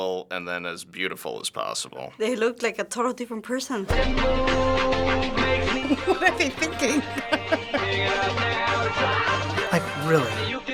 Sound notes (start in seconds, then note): 5.7 laughing